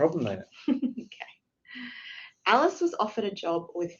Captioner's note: laughs